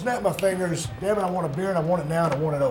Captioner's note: snap fingers